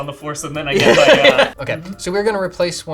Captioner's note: laughing